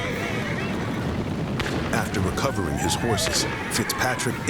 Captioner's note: gunshots; horses neighing